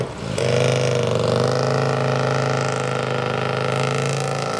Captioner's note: motorcycle engine noise